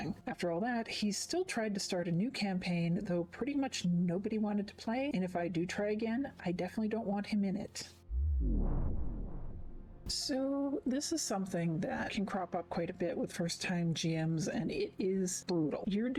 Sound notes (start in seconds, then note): 8.0 vwoom